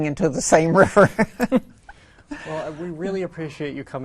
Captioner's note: laughs